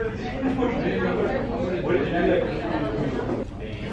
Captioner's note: students chattering